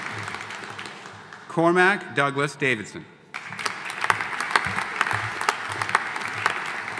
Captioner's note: audience applauding